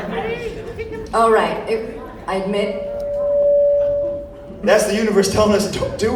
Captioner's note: mic feedback